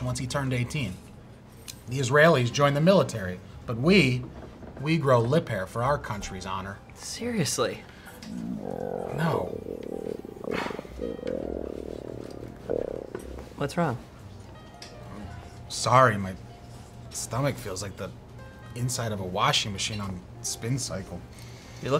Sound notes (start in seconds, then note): 8.2 stomach growling